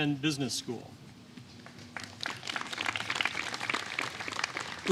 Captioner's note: applause